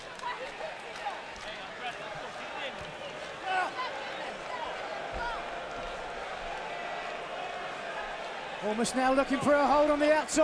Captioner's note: crowd chatter